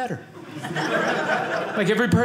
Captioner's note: audience laughing